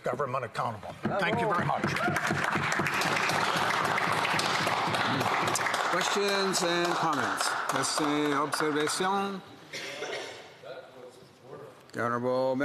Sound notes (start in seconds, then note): 8.1 some Applause